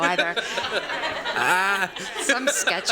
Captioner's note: laughter